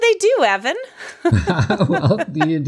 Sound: both laughs

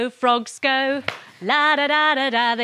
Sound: claps

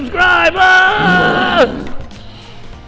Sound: dinosaur growl

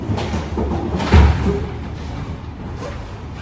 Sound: moving suitcases up 4 stairs, it makes a loud noise

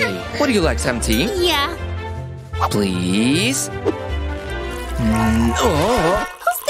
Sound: making happy sounds

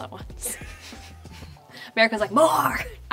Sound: Madelaine and makeup artist laugh

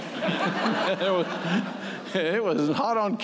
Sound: laughter

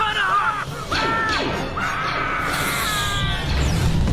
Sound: continues screaming

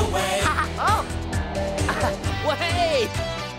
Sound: laughs

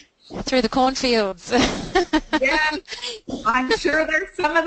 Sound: laughs

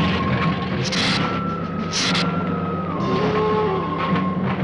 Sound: hissing

